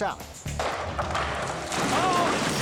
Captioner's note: sledgehammer pounding; silo cracking; yelling; silo exploding